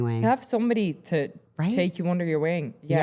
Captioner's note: none